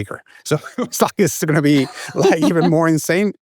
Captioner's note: laughs